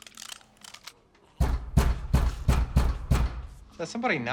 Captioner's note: frantic knocking on door